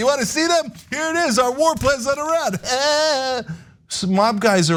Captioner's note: laugh